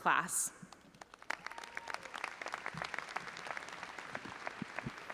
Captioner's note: audience applauding